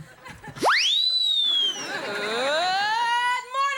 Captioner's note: whistle